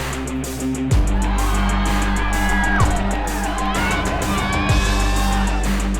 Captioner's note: crowd cheers